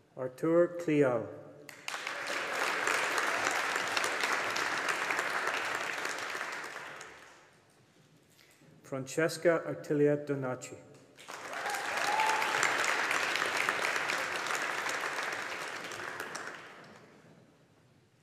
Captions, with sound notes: Arthur Cleal. (AUDIENCE APPLAUDING) Francesca-Artilia Donnachie. (AUDIENCE APPLAUDING)